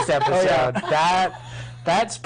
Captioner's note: laughing